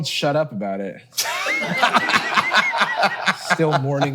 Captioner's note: group laughing